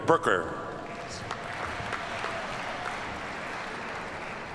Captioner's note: audience applauds